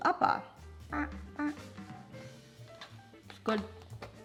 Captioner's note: squeaks